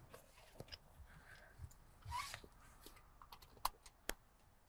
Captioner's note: seatbelt clicks